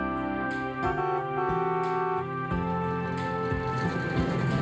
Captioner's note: van honks